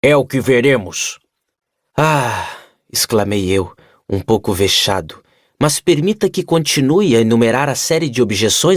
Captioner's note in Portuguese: suspirando